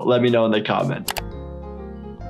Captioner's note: mouse clicking; calm music